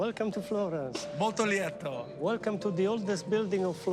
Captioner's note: speaking in foreign language